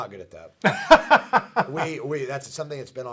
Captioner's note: laughing